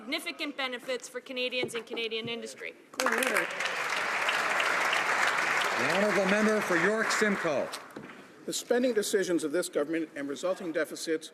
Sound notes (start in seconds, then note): 6.1 some Applause